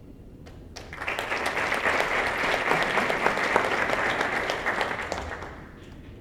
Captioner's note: applause